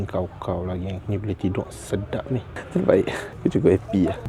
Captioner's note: laugh